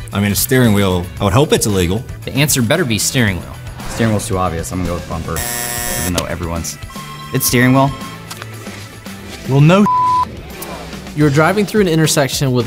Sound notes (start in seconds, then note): 5.4 buzzer buzzing